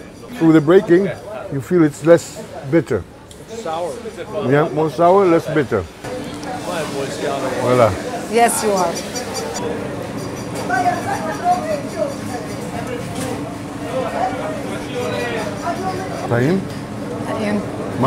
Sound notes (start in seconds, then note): 7.7 ambient Market sounds; 15.9 Speaking Hebrew